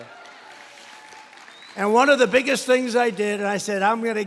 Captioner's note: applause